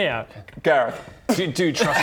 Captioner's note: spit